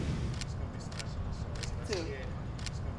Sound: camera shutter clicking

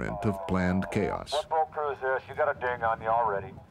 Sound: voiceover

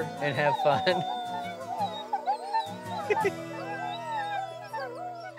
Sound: wolves howling; chuckles

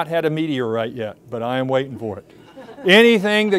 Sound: audience laughing

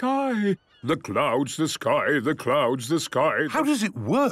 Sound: sing-sing voice

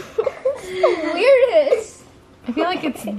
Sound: laughs

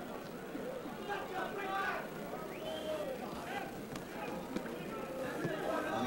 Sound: yelling and cheering from audience

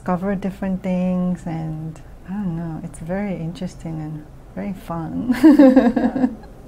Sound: laughs

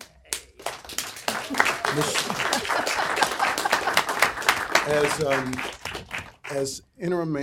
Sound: applause

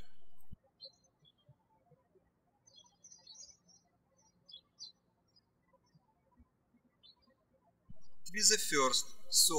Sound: birds chirping

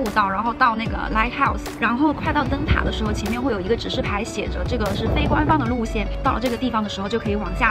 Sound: strong current

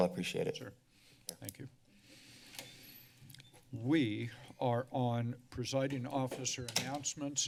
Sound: door closes

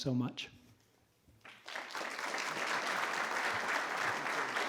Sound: all clapping

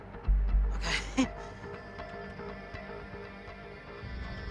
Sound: chuckles

